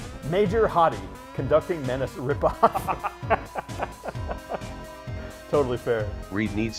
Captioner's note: laughs